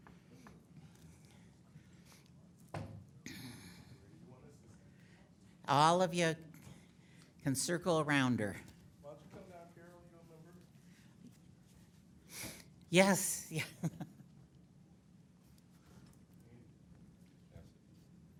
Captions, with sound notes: All of ya can circle around her. (man speaking softly) Yes. (laughing)